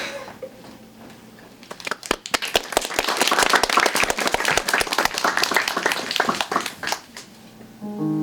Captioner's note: applause